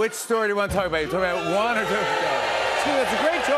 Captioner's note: audience shouting